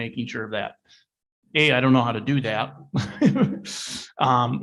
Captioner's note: laughing